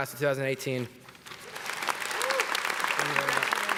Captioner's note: applause